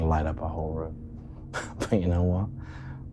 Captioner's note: laughing